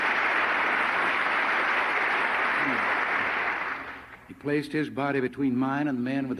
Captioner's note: applause